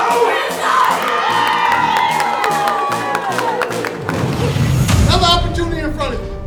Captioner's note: players cheering, clapping